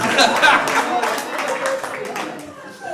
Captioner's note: laughter